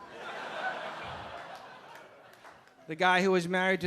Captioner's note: audience laughing